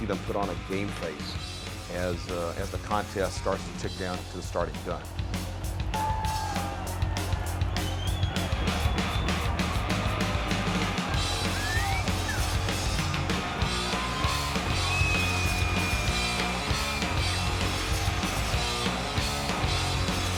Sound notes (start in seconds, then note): 6.8 crowd cheers; 6.8 rock music